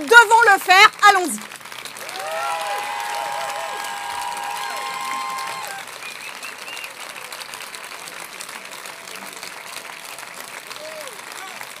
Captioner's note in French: Applaudissements